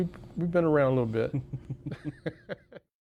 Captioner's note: laughs